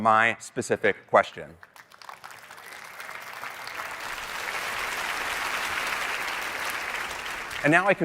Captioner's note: applause